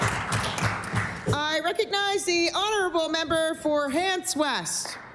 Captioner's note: applause